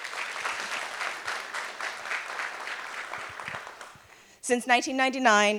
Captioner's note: applause